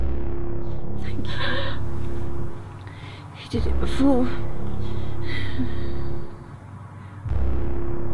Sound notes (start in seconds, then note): 2.8 gasps